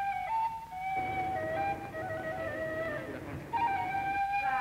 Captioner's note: vehicle rumble